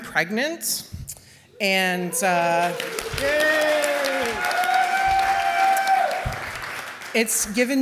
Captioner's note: cheers and applause